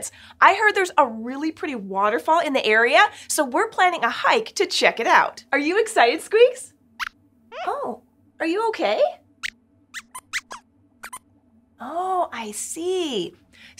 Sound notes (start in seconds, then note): 6.9 squeaks squeaks sadly; 9.9 squeaks squeaks